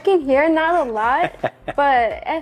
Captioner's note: presenter laughing